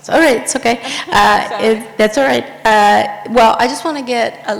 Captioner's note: laughs